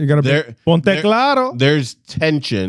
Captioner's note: speaking In Foreign Language